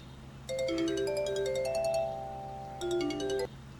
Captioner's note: phone ringing